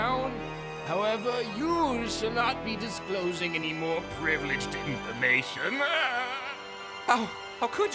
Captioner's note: laughs